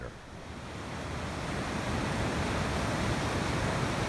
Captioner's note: rapids roaring